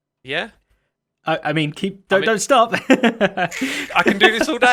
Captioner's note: laughs